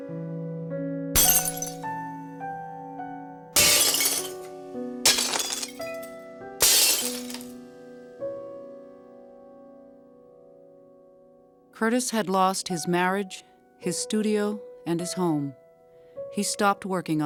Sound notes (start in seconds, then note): 4.1 glass breaking; 4.4 somber music